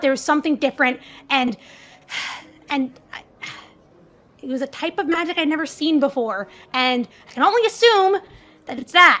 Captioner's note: sighs